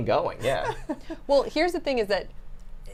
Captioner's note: laughs